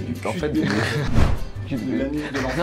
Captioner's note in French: rire léger